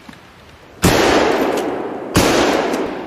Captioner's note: boom